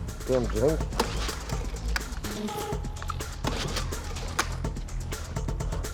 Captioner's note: generator revving up and down